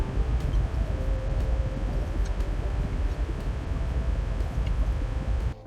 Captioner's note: rumble of the train